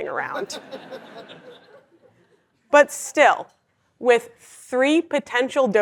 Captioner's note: laugh